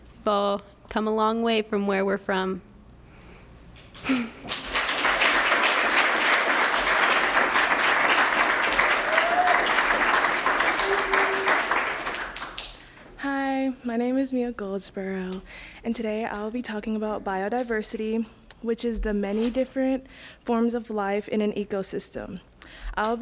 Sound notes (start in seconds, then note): 3.9 applause; 4.0 laughs